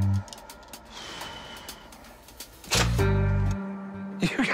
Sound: rick sighs

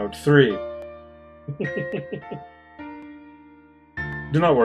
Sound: chuckles

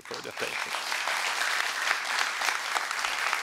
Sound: applause

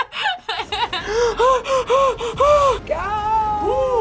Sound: laughs; gasps

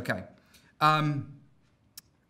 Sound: voiceover

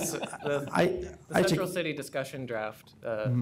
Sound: laughter

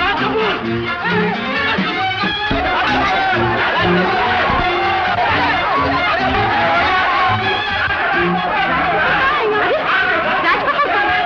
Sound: Muffled shouts of 'Raj Kapoor!'

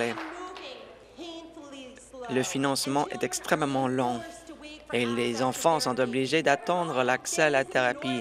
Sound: applause

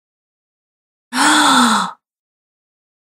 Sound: female gasp

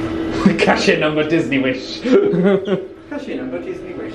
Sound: laughing

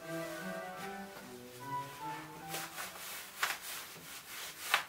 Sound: laces popping

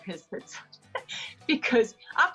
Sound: laughs

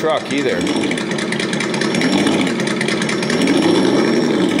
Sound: engine revving

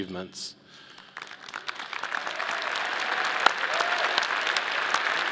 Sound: audience applauding

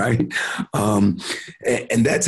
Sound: chuckling

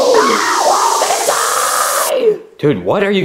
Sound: yelling

